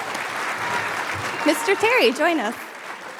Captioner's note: applause